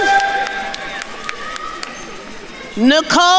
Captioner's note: attendees applauding